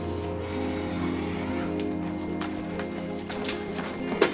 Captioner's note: Ashley sighs